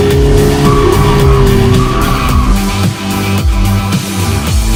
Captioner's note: screeching tires